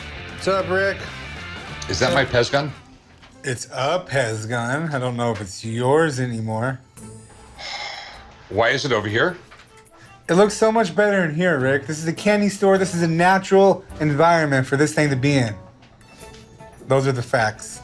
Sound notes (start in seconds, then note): 7.5 sighs